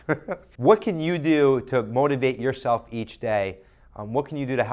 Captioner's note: chuckles